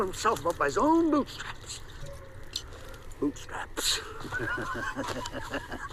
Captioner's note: laughs